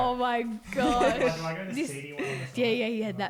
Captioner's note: voice muffled